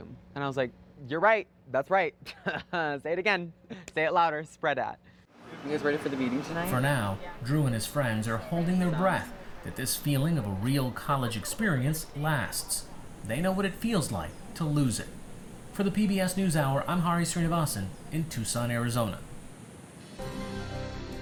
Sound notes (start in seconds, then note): 2.2 laughter